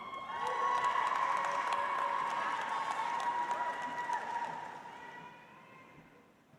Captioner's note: audience cheers; audience applauds